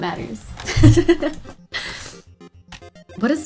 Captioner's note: laughs